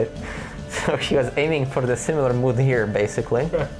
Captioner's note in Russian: Смеется